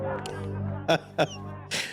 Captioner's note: emotional laughing